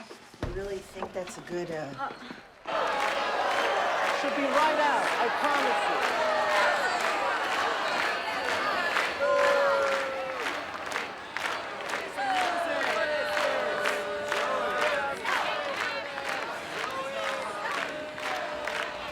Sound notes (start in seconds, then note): 7.0 booing and clapping rhythmically; 12.1 chanting Zoe and clapping